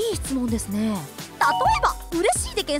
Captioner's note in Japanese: 効果音